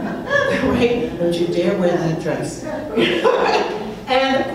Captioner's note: crowd laughing; laughs